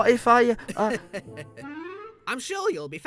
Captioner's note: chuckling